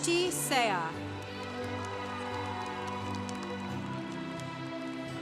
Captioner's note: congregation cheering